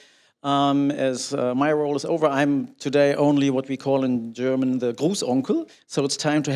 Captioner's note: speaking German